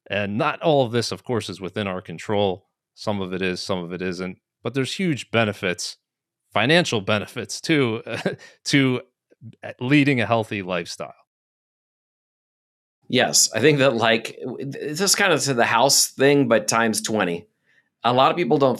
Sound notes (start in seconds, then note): 7.8 chuckles